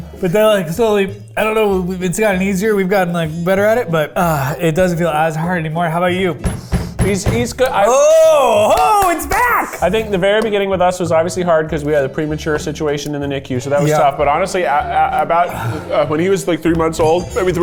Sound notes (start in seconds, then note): 6.3 banging